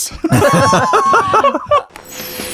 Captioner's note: laughing